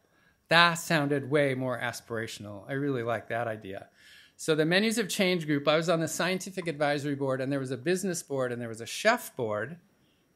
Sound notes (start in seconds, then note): none